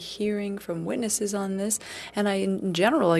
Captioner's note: speaking French